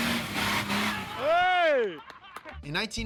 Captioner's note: engine whirring; man cheering